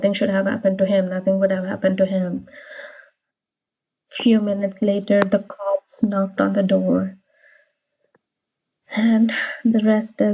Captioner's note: sighs